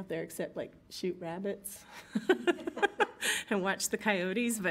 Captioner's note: group laughs